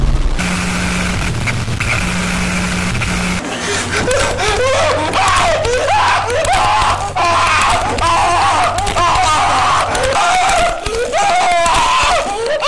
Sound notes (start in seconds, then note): 0.3 grinding; 3.6 yelling; 5.8 crying and screaming